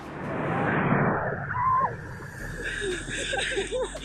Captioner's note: crowd cheering wildly; wave crashing; girls squeal; girls laughing